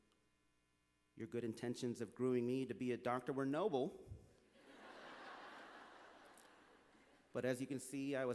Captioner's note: laughter